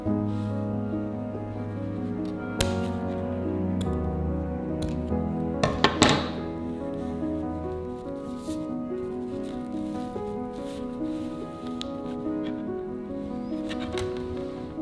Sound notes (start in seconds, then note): 2.5 scissors snipping; 5.6 scissors clattering; 6.9 classical music; 7.6 fabric rustling